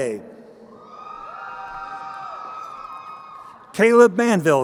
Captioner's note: crowd cheering